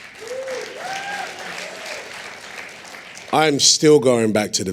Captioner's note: applause